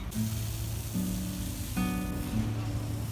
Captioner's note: street sounds, cars, birds and talking